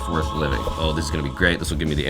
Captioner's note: angelic tone